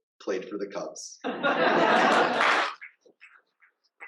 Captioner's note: audience laughs and applauds